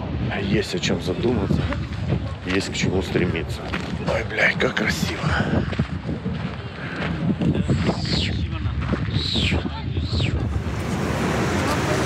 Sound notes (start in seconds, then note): 6.2 gusts of wind, voices; 11.1 loud sound of waves and wind